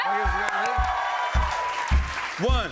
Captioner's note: cheers and applause